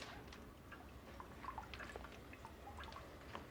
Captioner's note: dripping